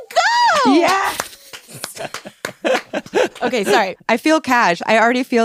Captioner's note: claps; laughs